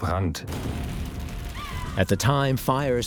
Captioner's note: sound of flames